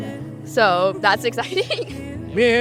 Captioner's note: laughter